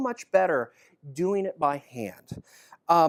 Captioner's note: none